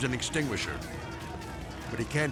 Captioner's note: people yelling